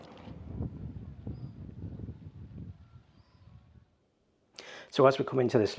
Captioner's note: birds chirping